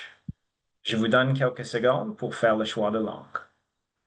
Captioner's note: speaking French